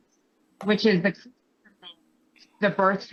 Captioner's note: faintly speaking